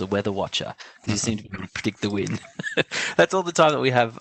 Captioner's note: laughs